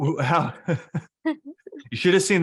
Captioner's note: laughs